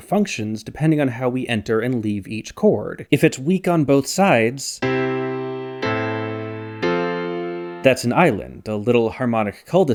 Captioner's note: bang